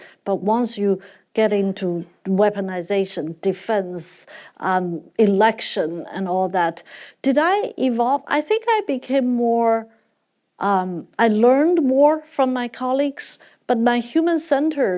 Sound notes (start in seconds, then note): none